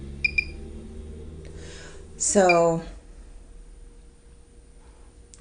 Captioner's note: machine chirps twice rapidly